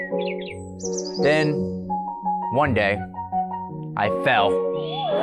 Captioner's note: falling noise